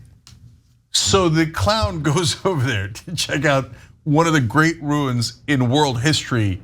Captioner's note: laugh